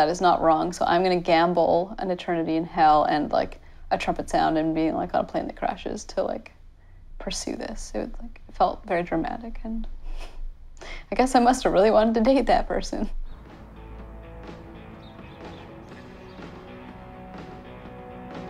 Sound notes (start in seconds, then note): 11.7 chuckles